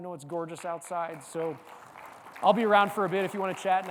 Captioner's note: audience clapping